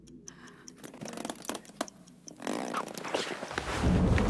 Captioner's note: straps stretching and cracking